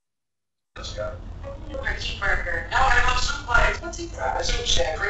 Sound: remote audio playing

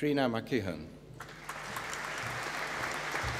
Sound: applause

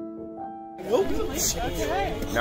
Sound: chatter

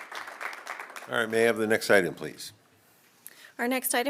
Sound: applause

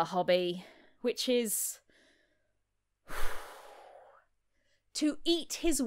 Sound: exhale

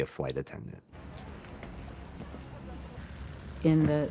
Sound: engine running

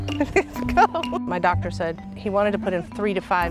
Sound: laughing

